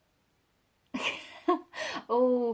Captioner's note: laughs